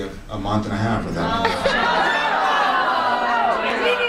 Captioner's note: audience cacophony